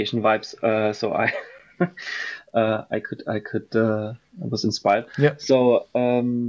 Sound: laughs

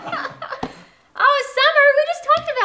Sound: laughing

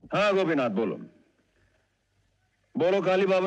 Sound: none

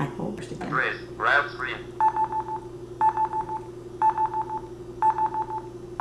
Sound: beeping

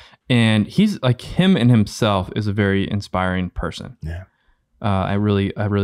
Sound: none

